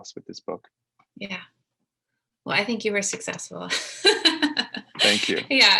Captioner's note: laughs